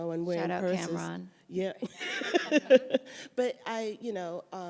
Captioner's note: laughs